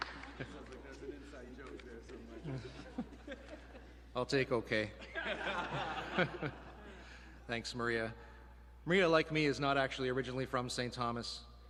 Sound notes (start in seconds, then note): 0.0 applause